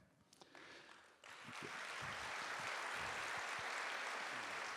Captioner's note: audience applauding